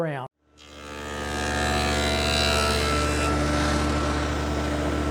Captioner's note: machine buzzing